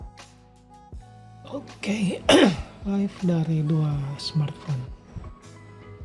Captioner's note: cough